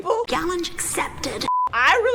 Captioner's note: screen beeps